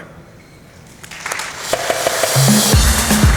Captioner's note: applause